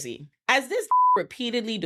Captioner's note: beep